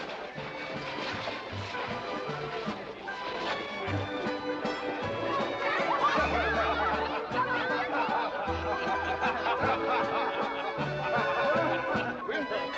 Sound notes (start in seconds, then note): 0.2 western party music; 5.4 children yelling excitedly; 8.1 guests chatting & laughing; 12.6 western party music